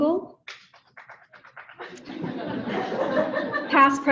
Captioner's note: audience laughing